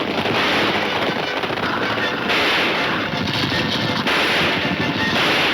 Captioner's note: gunshots banging